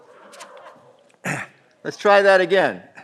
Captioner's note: all laughing